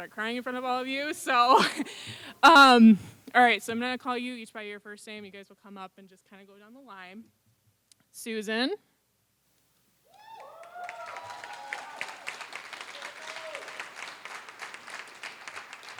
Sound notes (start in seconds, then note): 10.2 applause